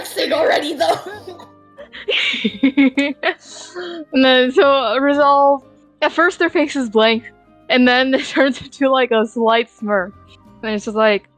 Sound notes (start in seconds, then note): 0.0 laughs